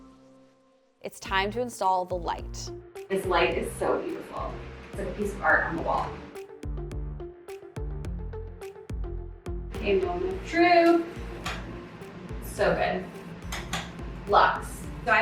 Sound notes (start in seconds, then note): 11.6 light clicks